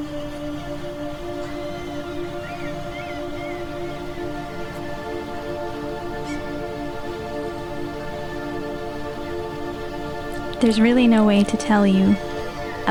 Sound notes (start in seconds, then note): 0.1 soft music; 4.7 seagulls screaming